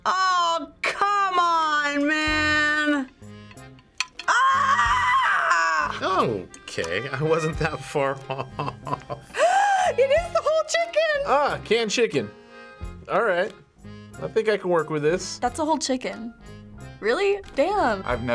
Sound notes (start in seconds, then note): 4.2 screams; 8.1 chuckling; 9.3 gasps loudly